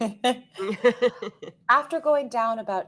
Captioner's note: all laughing